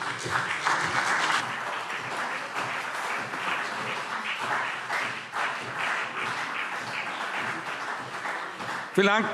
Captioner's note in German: Beifall CDU und BÜNDNIS 90/DIE GRÜNEN